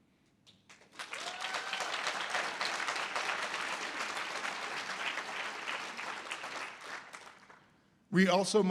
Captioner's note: audience applause